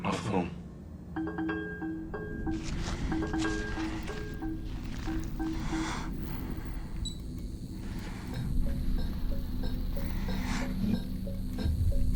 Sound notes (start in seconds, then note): 8.5 watch beeps